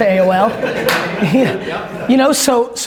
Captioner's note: audience laughs